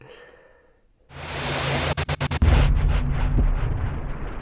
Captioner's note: static swell